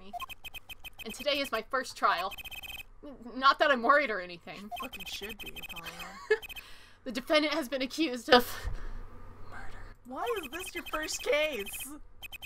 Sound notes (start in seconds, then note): 5.6 laughs